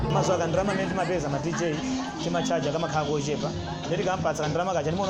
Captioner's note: upbeat music; speaking foreign language